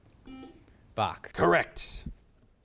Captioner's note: buzzer chimes